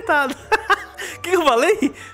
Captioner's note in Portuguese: Risos